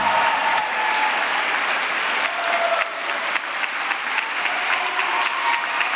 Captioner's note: applause